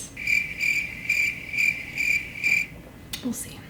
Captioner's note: crickets chirping